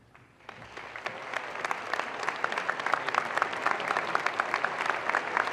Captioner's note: audience applause